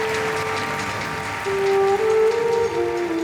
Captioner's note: applauding; sorrowful orchestral music